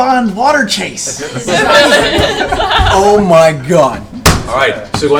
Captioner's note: all laugh